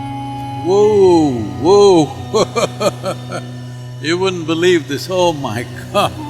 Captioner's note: laughs